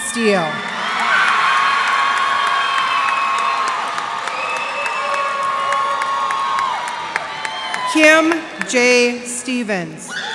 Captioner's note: cheers and applause